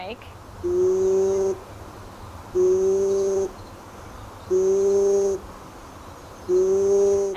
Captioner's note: bird calling